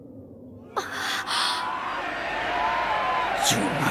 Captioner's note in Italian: grida di eccitazione